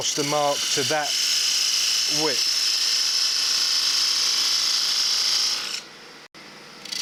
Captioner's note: machine whirring drowns out other sounds